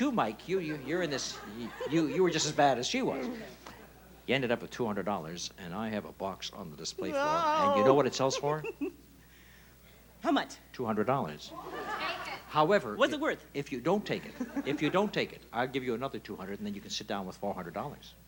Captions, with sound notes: You're in this. You were just as bad as she was. You ended up with $200, and I have a box on the display floor, and do you know what it sells for? -(giggling) How much? -$200. -However, if-- -What's it worth? -If you don't take it-- If you don't take it, I'll give you another 200, and then you can sit down with $400.